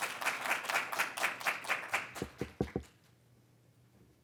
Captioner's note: audience clapping